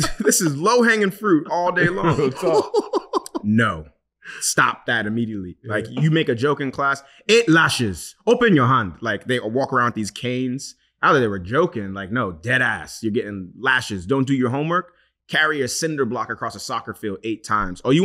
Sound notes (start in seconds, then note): 1.7 laughing